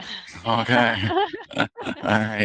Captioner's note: laughing